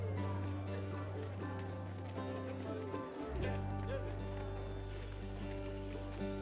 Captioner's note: people talking in background